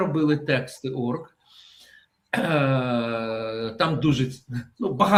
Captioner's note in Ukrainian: прочищення горла